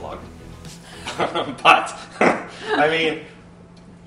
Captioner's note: both laughing